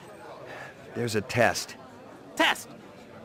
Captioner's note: sigh